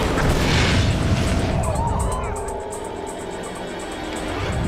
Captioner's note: plane explodes